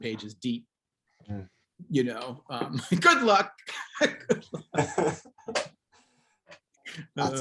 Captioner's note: laughs